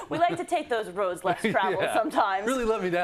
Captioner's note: laugh